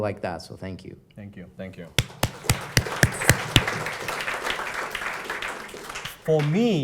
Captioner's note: applause